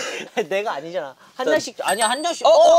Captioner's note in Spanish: Ding